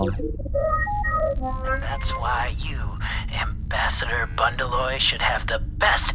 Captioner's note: beeps and boops of transmission